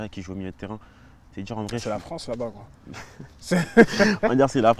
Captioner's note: laughs